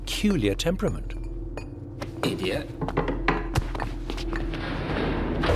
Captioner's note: chisel chinks against stone